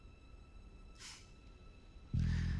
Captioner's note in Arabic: يضحك